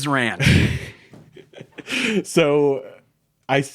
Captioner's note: both laughing